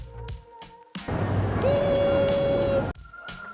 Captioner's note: exciting sound